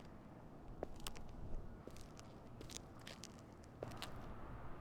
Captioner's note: footsteps clack